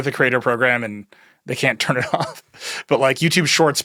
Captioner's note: chuckles